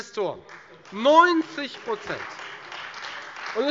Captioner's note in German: Beifall Freie Demokraten